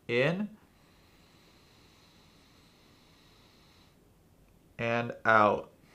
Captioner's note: inhales slowly